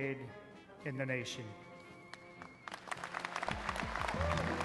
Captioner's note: applause